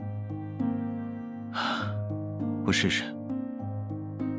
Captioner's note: sigh